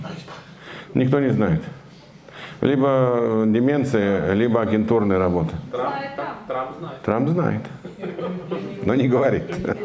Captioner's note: laughter